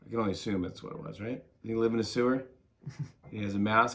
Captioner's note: laughs